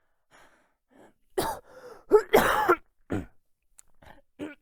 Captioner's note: coughing; clears throat